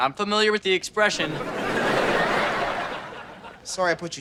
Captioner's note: audience laughter